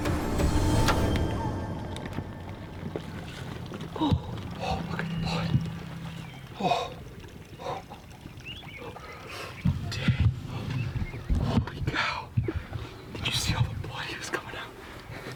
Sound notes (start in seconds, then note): 0.8 bow firing; 1.7 animals running; 7.9 laughing